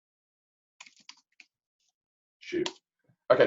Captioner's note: keyboard clicking